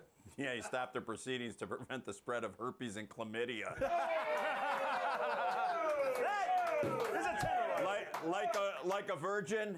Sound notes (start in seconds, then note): 7.0 laughter